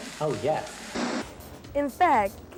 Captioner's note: static noise